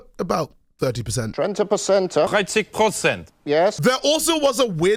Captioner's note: heavy accents